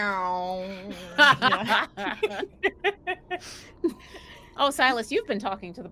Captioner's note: everyone laughing